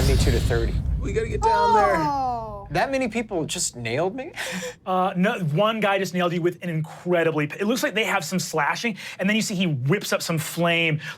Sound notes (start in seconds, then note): 1.4 yells